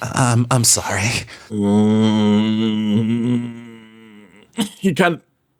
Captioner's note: grumbling